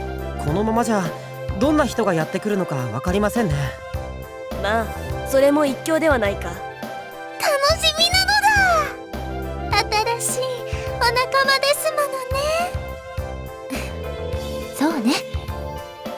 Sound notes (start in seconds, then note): 13.8 relieved sigh